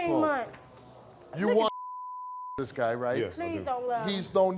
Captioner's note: beep